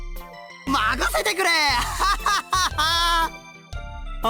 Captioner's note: laugh